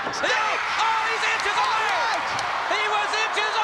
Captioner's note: crowd cheers